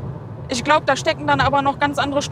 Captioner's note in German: none